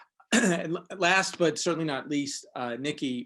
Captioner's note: clears throat